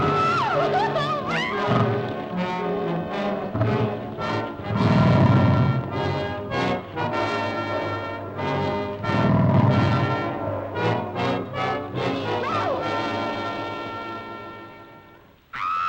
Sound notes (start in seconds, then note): 0.1 Pat sobbing; 2.6 alligator bellowing; 2.6 dramatic music; 13.3 dramatic music; 15.7 Pat screams